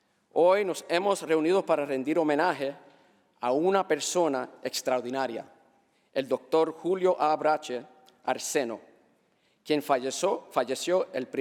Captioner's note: speaking spanish